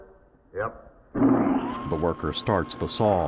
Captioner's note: saw whirring